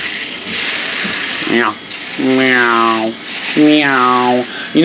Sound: razor sounds

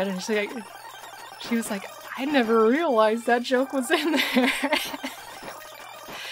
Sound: laughing

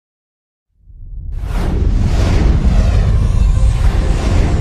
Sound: epic whooshing sounds, music continuing

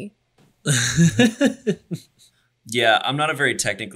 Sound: laughs

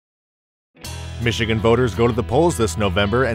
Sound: voiceover

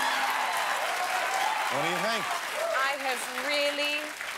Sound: applause

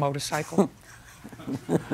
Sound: chuckles

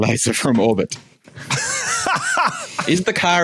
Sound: laughs uproariously

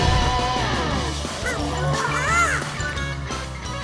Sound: squeaking

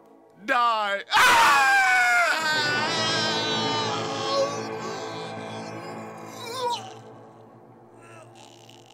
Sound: Thisby screams

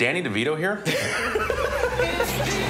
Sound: laughter; singing

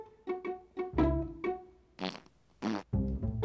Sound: continuous farting

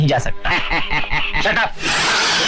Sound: laughing

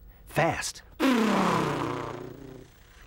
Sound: imitating race car

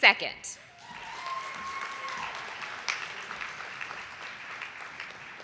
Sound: audience applauding

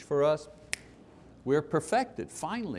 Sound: snapping

